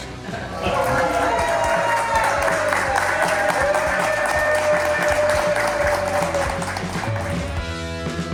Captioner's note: crowd clapping and cheering